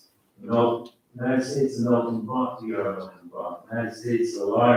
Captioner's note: faintly speaking